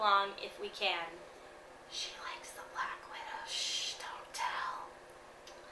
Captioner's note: whispers